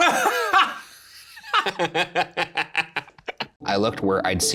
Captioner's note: Shane and Ryan laughing